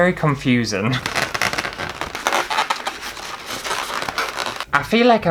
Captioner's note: balloons Squeaking